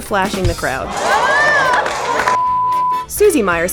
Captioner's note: cheers